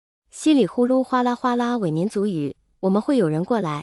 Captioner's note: pseudo-ethnic language